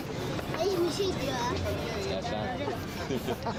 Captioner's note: men speaking native language